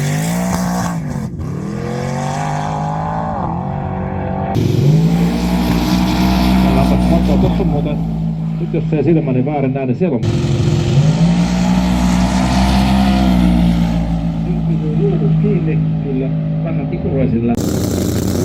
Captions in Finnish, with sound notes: [Moottorin ääntä] muuten nyt jos ei silmäni väärin nä niin [Moottorin ääntä] [Moottorin ääntä]